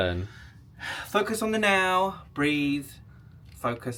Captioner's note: sighs